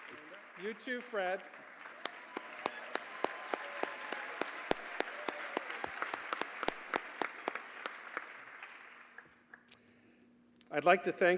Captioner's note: applause